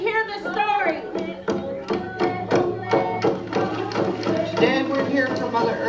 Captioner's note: chanting